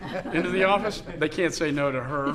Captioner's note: laughter